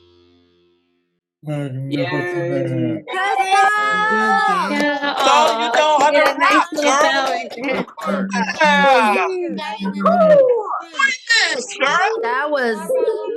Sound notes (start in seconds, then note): 1.0 applause